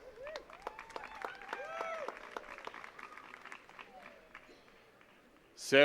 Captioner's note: attendees cheering and clapping